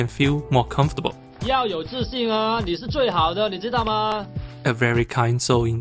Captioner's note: in Mandarin